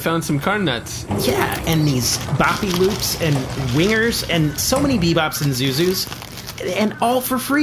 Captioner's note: excited